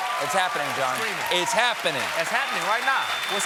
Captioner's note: cheers and applause